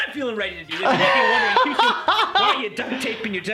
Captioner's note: laughing